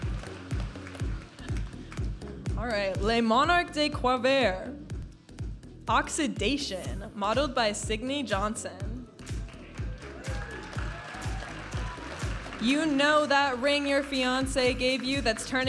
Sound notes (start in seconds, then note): 0.0 audience applauding; 0.2 vibrant music; 9.2 audience applauding and cheering; 12.1 vibrant music